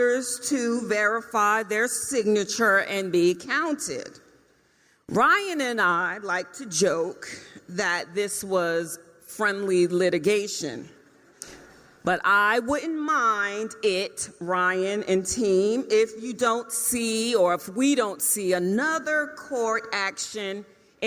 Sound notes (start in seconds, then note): none